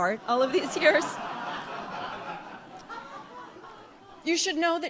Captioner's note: audience laughs